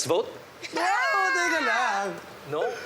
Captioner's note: screams